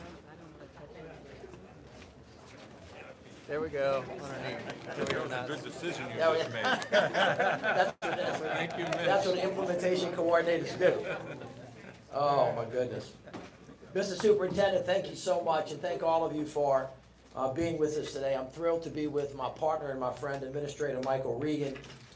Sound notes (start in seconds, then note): 9.6 applause